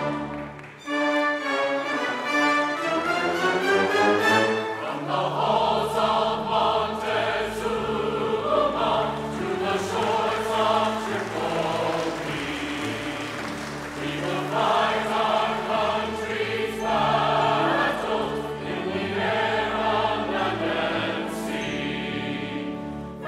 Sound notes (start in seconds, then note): 0.7 energetic orchestral music continues; 8.9 congregation applauds